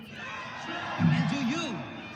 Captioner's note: crowd cheering